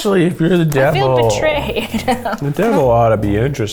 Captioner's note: laughs